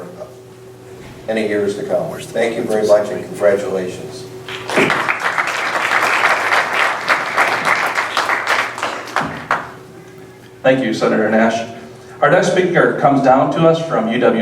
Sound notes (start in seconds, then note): 4.4 applause